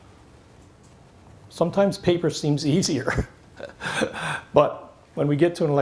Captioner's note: laughs